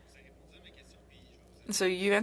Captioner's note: speaking French